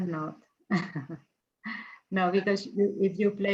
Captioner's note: chuckles